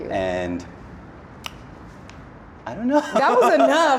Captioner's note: laughs